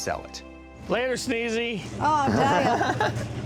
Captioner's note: laughs